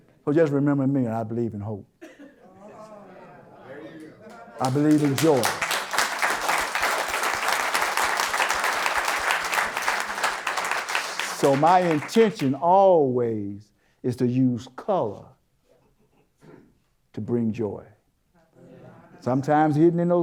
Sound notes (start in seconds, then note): 4.2 applause